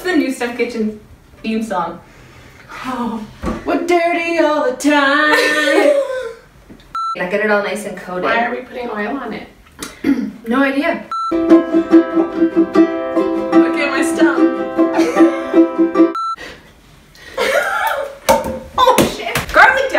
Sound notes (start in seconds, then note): 5.2 laughs; 11.3 guitar music; 14.9 laughs